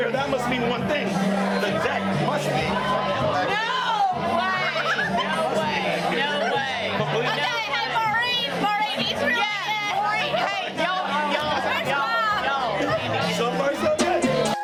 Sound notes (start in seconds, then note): 4.4 women laughing; 12.3 woman shouting; 13.8 intriguing electronic music